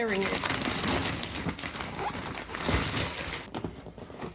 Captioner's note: paper tearing